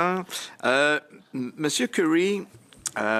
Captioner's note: speaking French